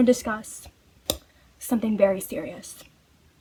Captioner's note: mouth pop